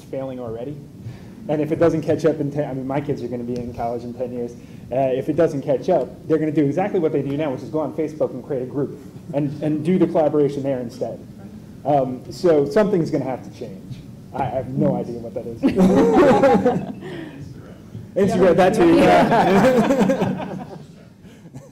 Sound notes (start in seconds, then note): 18.9 laughter